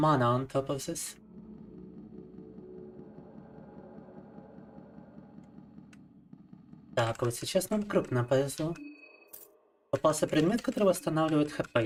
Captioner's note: speaking in foreign language